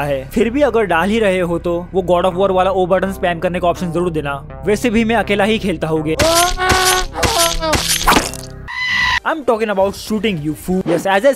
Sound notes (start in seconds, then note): 6.2 angry stabbing noises; 8.4 scream